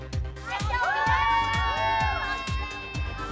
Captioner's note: all clamoring